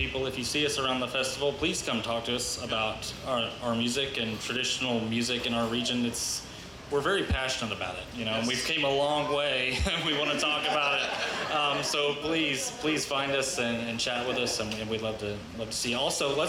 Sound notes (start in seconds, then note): 9.7 laughs; 9.8 band and audience laughs